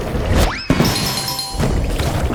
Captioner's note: bell dings